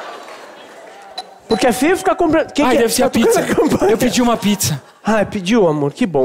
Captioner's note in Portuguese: campainha